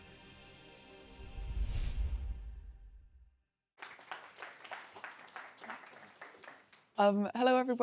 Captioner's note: applause